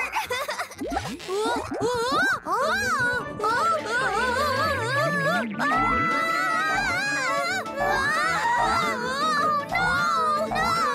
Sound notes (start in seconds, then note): 0.0 Pinkfong chuckles; 3.3 both screaming; 7.3 both continue yelling